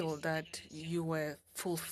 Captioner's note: speaking French